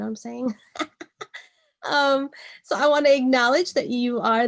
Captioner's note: laughs